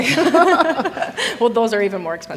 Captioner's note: audience laughing; hosts laughing